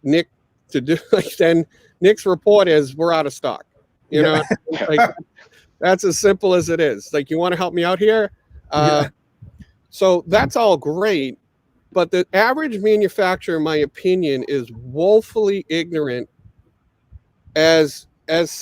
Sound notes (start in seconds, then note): 4.1 all laughing